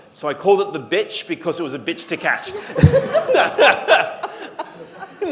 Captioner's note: laughter